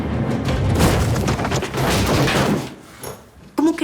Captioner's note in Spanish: Portazo